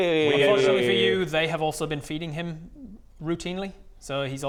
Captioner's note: none